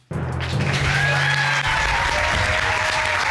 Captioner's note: applause